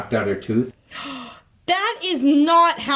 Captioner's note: gasping